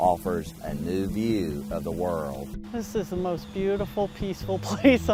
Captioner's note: voiceover